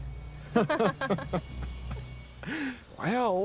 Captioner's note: Homer and Susan laugh